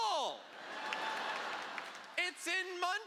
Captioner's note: laughter